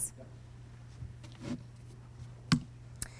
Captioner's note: voiceover